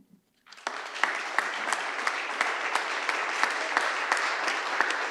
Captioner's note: audience applauding